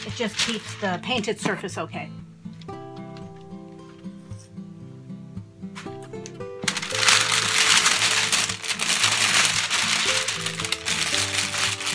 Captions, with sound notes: it just keeps the painted surface okay. (calm music) (paper rustling)